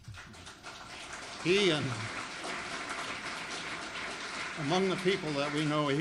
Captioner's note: audience applauding; audience applauds